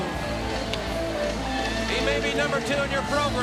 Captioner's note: crowd cheering